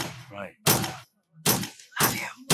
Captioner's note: gun Shots